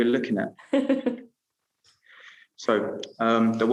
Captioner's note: laughing